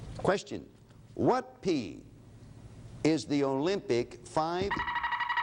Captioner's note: alarm sounds